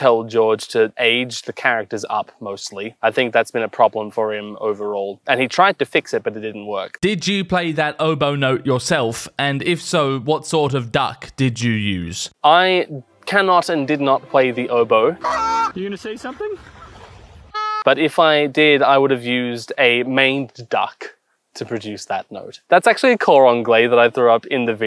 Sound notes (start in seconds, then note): 17.8 real swan noise